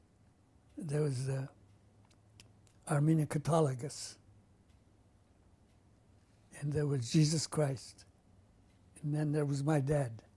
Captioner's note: non-english